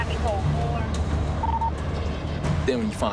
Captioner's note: radio chirps